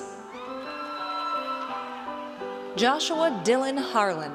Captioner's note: audience cheers